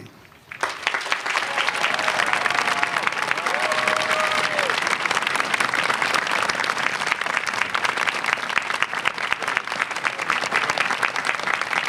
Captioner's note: applause